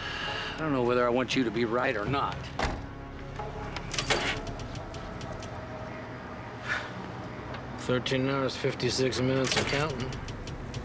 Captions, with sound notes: - (sighs) I don't know whether I want you to be right or not. (engine stalling, clicking) - Thirteen hours, 56 minutes and counting.